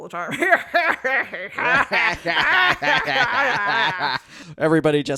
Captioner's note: cackling; both cackle maniacally